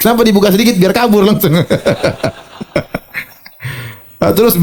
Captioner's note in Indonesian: tertawa